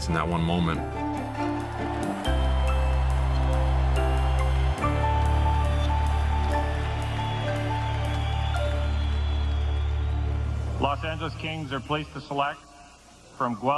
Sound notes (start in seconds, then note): 2.1 cheering; 2.1 soft music